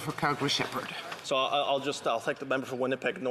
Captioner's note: none